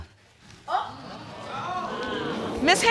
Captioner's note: audience exclaims